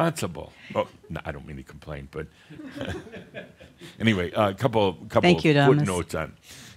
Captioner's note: a few chuckles